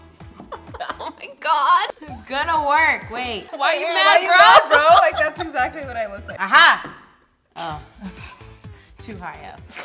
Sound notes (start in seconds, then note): 0.4 laughs; 4.0 laughs